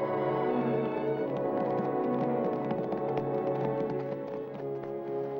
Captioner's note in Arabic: ضربات حوافر; موسيقى درامية